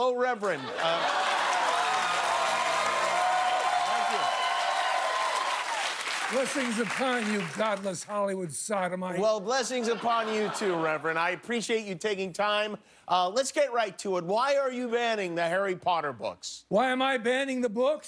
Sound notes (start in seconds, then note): 7.7 cheers and applause